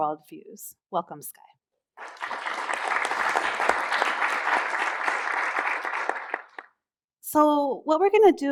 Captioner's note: applause